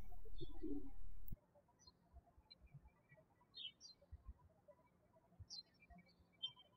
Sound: birds chirping

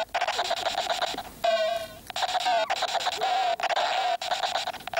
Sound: video game guns firing

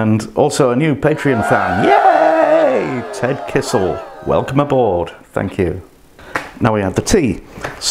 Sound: cheering

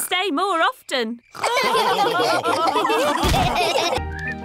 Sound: all laughing

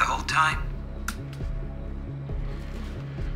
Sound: recorder clicks

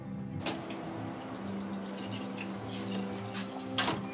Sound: lock beeps

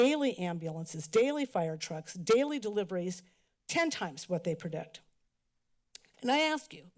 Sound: tsk

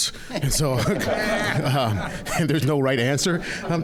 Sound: audience laughing

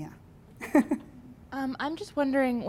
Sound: laughs

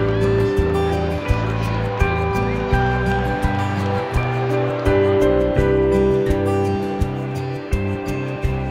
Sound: applause

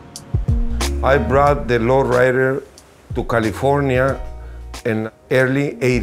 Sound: voiceover

